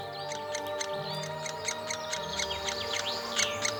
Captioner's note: woodpecker chirping